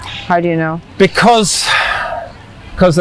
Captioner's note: sighing